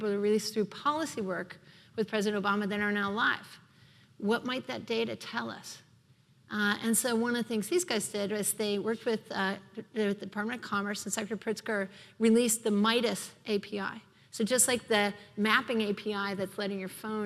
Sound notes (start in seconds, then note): none